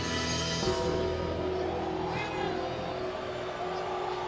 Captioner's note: bell tolls